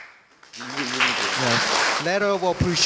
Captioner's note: applause